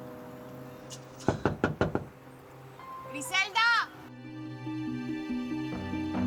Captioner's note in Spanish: Toques en la puerta